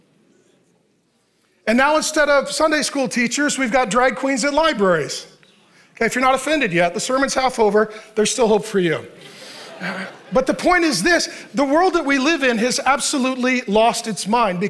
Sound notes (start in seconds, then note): 9.1 audience chuckling